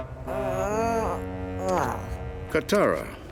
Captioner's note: groaning